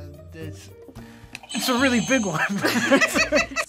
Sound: buzzer rings; both laugh

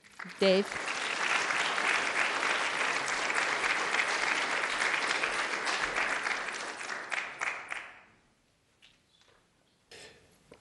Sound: applause

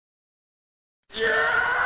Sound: incoherent screaming

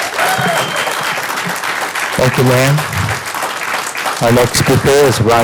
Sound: applause

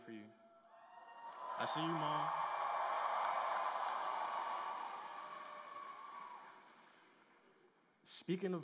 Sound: cheers and applause

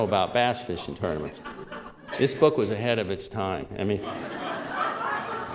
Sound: laughter; louder laughter

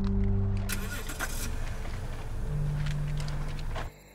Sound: car starts

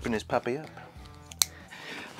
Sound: clicking

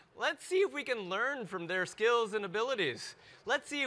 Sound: none

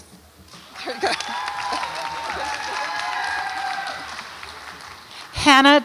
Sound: audience applauds and cheers

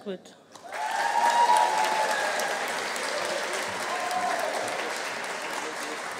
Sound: audience applauding; audience cheering

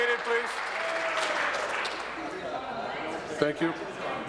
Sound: applause

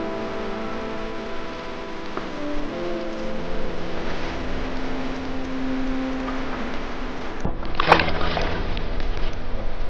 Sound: water, splashing

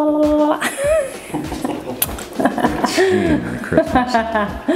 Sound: laughing

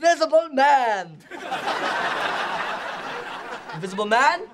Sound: crowd laughing

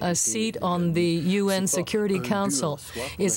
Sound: speaking French

